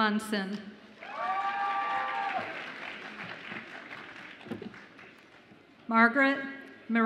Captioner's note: audience applauds and cheers